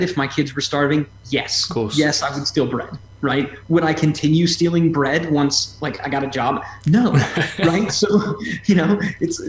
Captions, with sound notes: if my kids were starving? Yes. Yes, I would steal bread. Right? Would I continue stealing bread once like, I got a job? No. (laughs) Right?